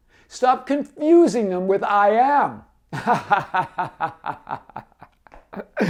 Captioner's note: laughs